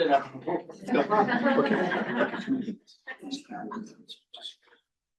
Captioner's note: crowd chuckles